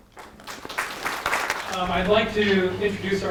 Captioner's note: audience claps